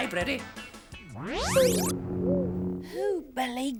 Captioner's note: whirrs